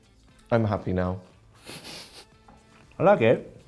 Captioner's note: laughs